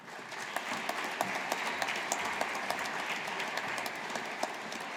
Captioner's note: audience applauding